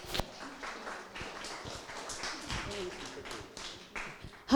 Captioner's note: applause